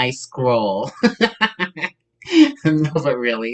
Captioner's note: laughs